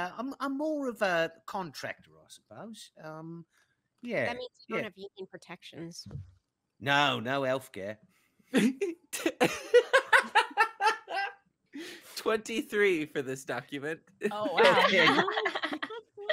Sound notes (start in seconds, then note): 8.5 laughing